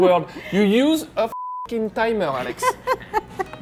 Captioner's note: beeping; laughs